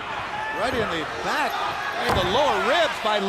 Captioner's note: crowd cheering